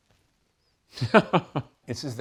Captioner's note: laughs